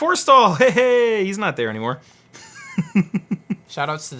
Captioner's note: laughs